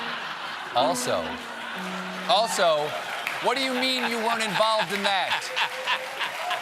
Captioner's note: laughter; applause